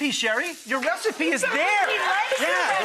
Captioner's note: audience applauds